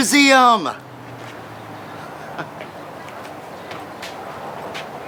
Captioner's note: cars whooshing